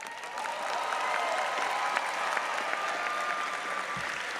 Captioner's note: audience applauds